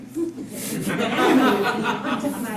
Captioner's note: scattered chuckles